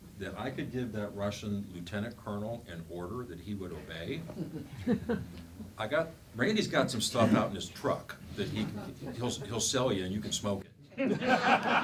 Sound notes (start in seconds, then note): 4.2 chuckling; 11.0 laughing